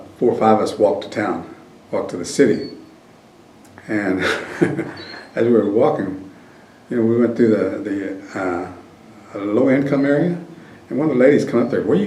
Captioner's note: laughs